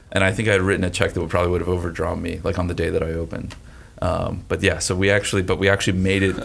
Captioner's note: none